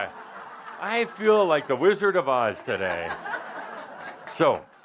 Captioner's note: laughter; more laughter